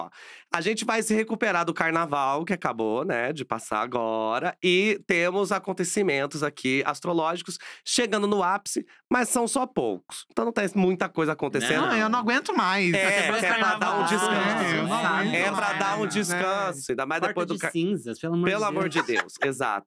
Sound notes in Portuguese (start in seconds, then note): 13.0 falatório